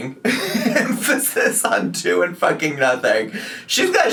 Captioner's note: laughing